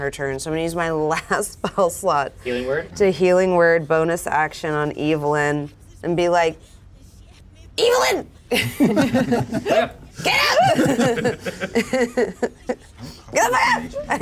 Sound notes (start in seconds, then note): 8.5 giggles; 11.1 continues laughing